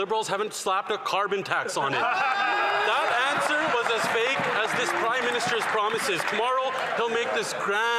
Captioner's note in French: voix de l'interprète